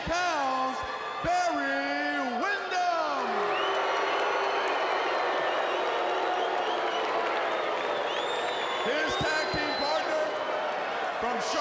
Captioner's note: crowd cheering